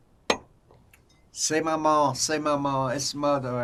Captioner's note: drinking; french